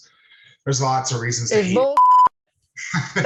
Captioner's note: beep